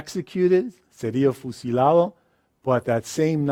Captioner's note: speaks in a foreign language